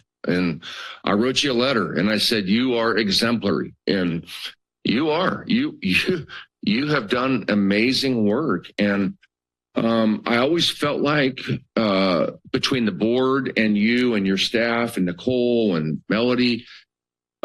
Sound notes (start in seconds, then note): 5.8 laughs